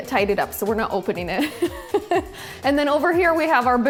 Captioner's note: laughs